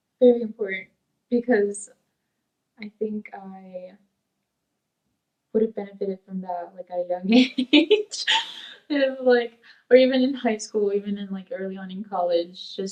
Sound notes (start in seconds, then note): 7.4 laughs